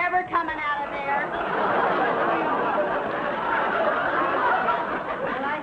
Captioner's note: audience laughing